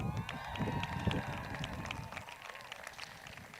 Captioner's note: crowd cheers